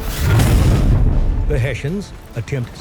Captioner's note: cannon explodes